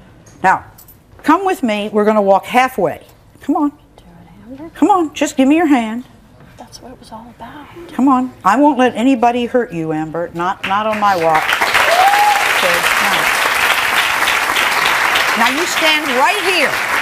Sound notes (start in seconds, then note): 11.4 audience cheering and clapping